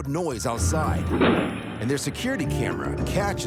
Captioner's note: car bangs